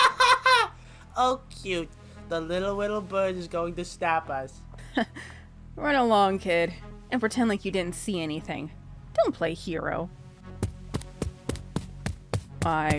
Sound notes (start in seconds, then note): 0.0 laughs